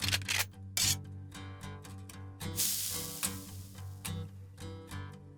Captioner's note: gun cocks and sizzle